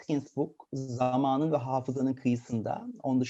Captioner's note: speaking in a foreign language